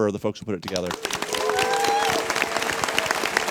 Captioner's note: applause